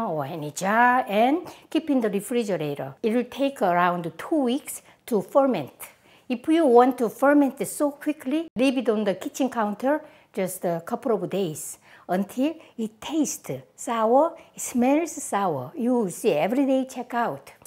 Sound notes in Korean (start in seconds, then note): none